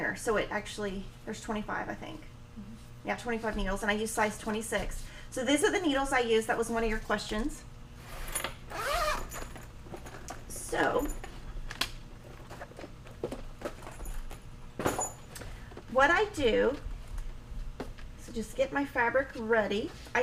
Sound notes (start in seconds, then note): 8.0 zipper buzzing